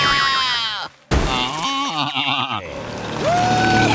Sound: bleating; groaning

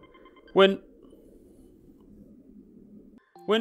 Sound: train rumbles

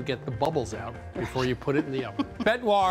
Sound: chuckles

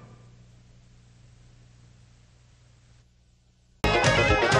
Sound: silence

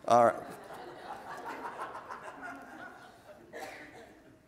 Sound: audience laughs

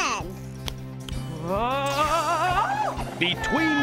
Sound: shouts nervously

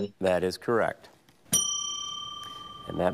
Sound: bell dings

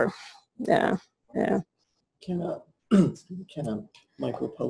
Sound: pause

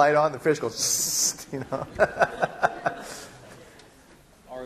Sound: laughing

